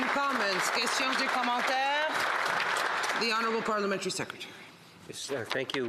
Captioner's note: applause